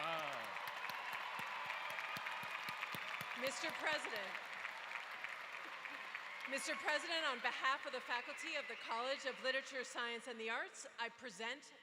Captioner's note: applause